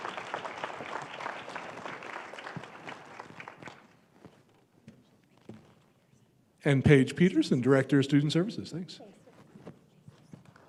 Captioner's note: applause